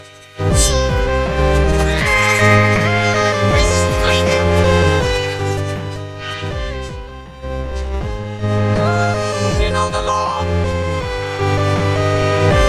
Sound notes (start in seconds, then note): 1.6 neighing; 1.9 gasps